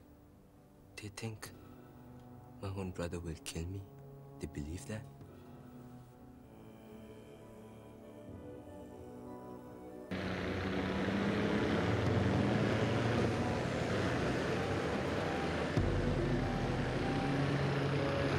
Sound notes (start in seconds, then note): 9.0 engines Rumbling